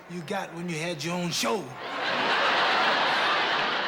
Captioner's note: laughter